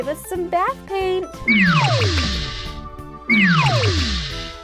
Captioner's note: blasting